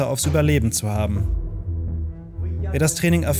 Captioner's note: quiet, gloomy sounds